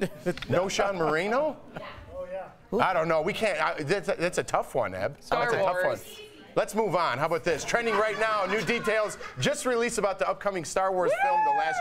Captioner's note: laughter